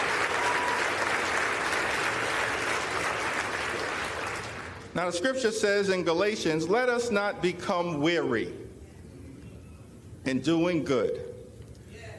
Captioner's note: applause